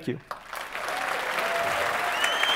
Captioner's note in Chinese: 鼓掌